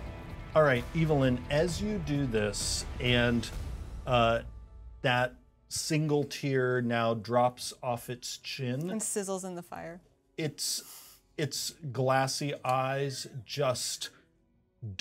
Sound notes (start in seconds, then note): none